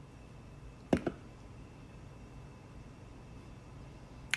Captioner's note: can thuds